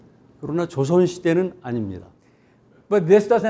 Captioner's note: speaking in Korean